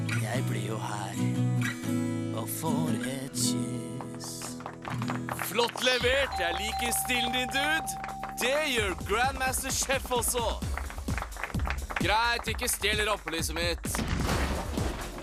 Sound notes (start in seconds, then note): 4.2 applause; 6.2 dinging